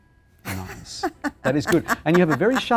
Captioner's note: laughs